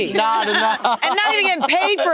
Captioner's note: participants laughing